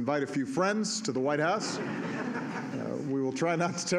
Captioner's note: laughter